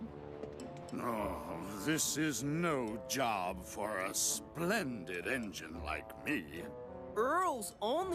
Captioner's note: sighs